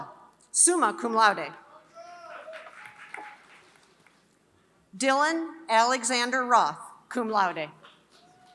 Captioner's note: applause; applause